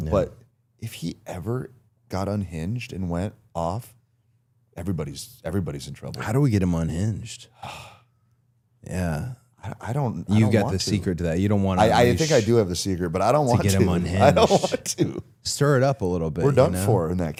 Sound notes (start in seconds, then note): 7.8 Chad exhales; 13.8 laughs